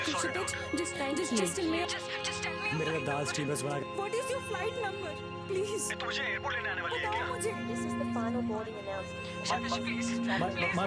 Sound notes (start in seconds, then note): 1.9 airport boarding announcement going on; 7.2 ambulance siren